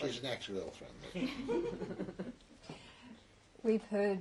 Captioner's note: laughter